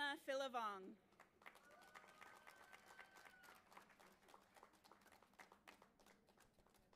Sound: audience applauding and cheering

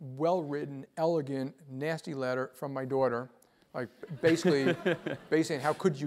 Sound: laugh

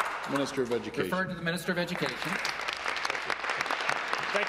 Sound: applause

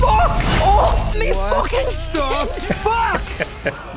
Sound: laughing; whimpering

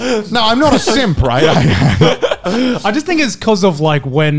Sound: men laughing; laughs

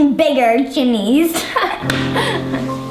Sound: laughs

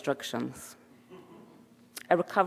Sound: audience chuckling

